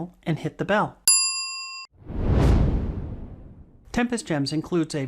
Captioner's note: bell rings; swoosh